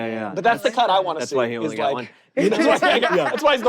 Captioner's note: hosts laughing